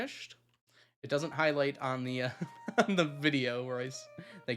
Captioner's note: laughs